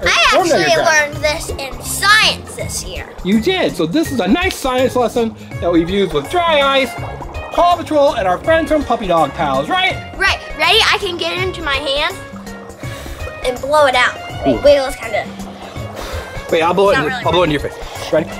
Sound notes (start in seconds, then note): 12.7 blows